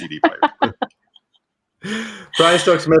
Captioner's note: laughs